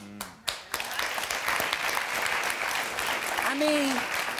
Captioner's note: audience applauding